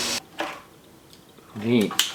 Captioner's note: loud sawing noise stops